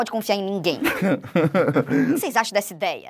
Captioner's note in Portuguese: risadas